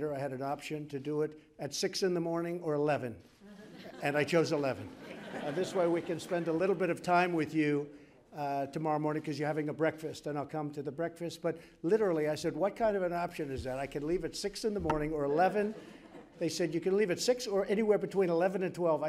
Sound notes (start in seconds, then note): 3.4 laughter